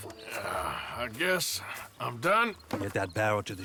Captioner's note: sighs